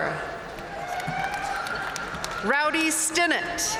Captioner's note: audience cheering and applauding